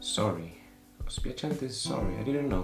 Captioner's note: speaks in foreign language